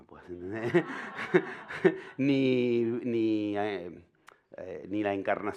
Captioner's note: laughter